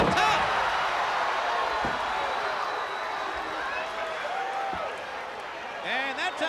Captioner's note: crowd cheering